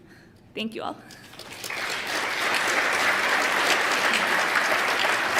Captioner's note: applause